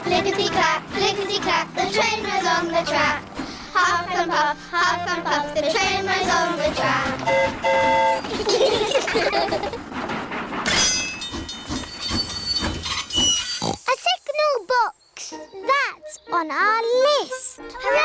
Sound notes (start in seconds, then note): 7.1 train horn toots; 8.2 all giggle; 11.4 tinging; 13.4 oinks